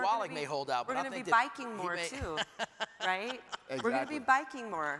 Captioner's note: laughs